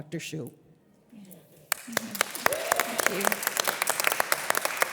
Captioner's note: audience applause; audience applause continues